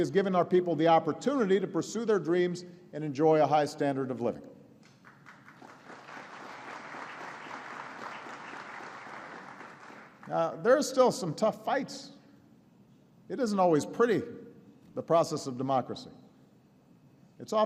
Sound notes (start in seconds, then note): 6.5 applause